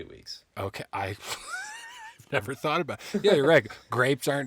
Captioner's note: laughing